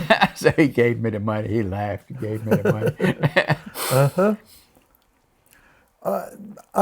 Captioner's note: laughs; laughs